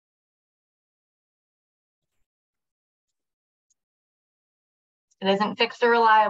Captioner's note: silence